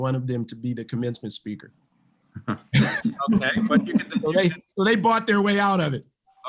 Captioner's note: laughs